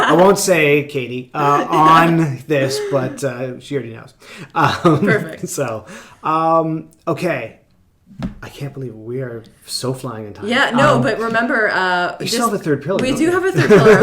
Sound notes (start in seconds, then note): 4.4 both laughing